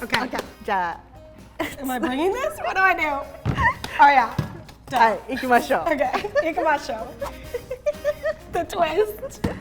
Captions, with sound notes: - Okay. (speaking in Japanese) - Am I bringing this? What do I do? Oh, yeah. (speaking in Japanese) - Okay. (speaking in Japanese) The twist!